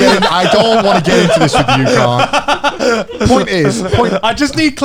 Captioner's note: laughs